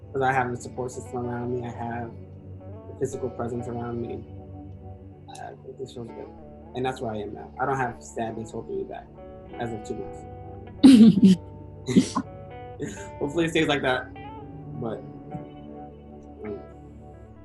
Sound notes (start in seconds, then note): 11.1 chuckles